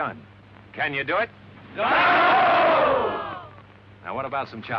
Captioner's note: cheers